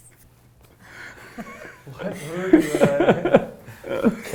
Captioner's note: laughter